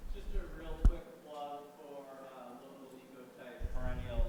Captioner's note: speaking faintly